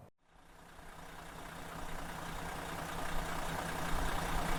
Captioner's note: engine idles